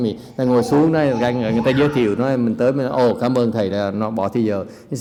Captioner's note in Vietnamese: none